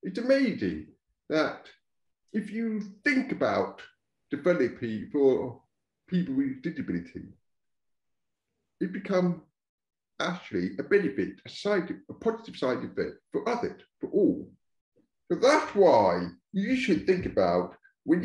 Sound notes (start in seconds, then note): none